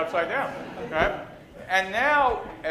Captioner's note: laughter